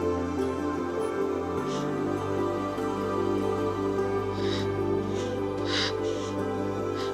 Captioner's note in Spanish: Sollozos